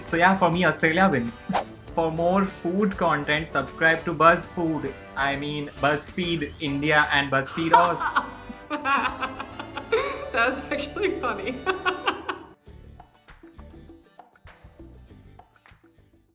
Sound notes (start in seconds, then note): 7.5 laughs hard